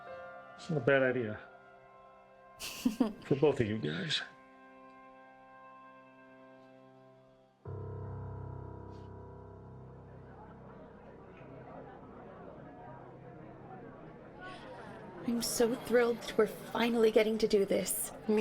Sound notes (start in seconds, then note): 2.6 Joan laughs; 10.1 people chattering